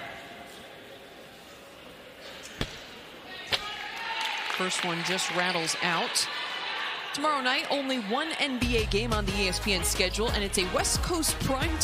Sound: crowd noise

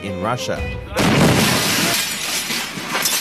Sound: explosion

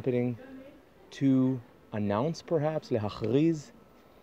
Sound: utterance in Jewish

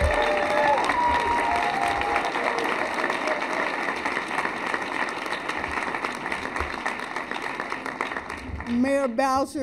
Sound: cheers and applause

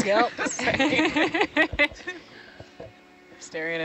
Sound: speakers laughing

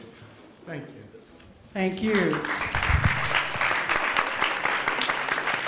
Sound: applause

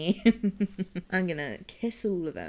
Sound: giggles

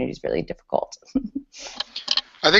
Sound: laughs

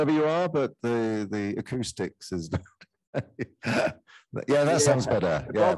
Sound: laughs

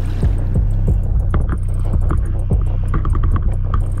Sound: water rippling

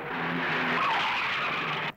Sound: brakes squeal

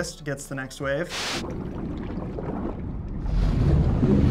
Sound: water bubbling

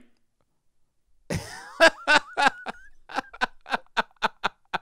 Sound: laughs

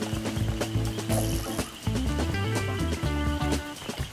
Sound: crickets chirping; rhythmic music

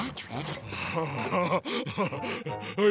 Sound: giggling

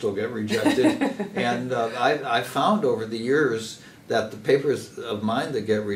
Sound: laugh

